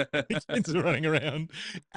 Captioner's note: laughs